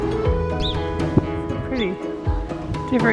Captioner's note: birds chirping